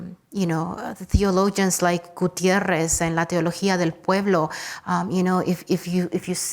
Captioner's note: speaks Spanish